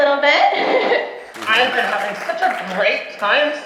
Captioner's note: laughs